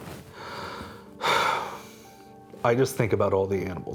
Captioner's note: sighing